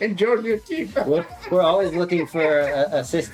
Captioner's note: laughter